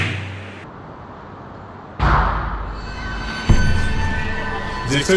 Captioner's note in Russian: Металлический удар